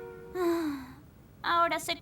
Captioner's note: sighing